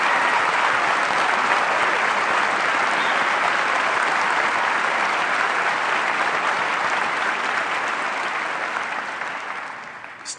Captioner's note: applause